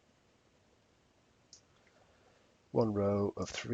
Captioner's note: mouse clicking